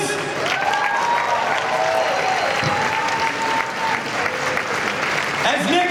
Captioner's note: cheering and applause